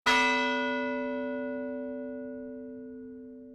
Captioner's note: bell chimes